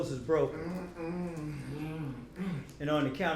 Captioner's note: Dante moaning